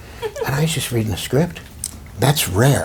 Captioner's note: chuckles